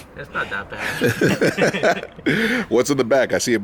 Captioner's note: laughter